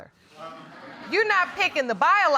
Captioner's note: audience laughing